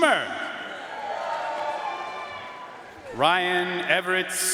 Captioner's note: audience cheering and applauding